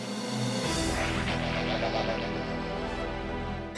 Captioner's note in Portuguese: balbuciando